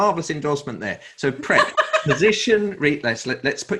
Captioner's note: laughs